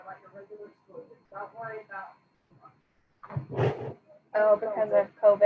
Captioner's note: faintly speaking